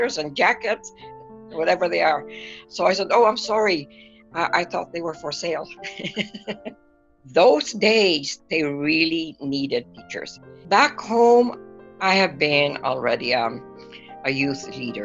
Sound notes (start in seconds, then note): 5.8 laughter